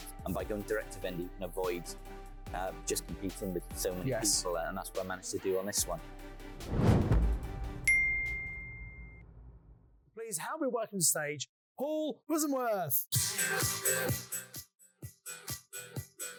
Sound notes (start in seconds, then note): 7.8 bell dinging; 13.2 upbeat music